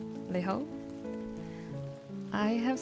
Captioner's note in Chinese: 粵語